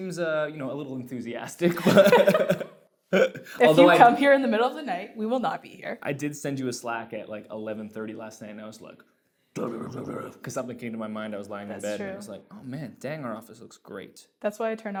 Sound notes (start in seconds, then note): 3.1 laughs; 9.6 growls